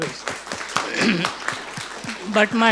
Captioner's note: audience applauding